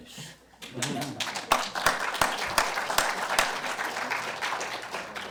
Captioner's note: audience chuckles, applause